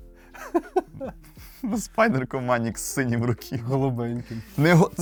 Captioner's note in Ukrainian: сміх